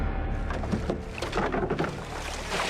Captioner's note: boat clunks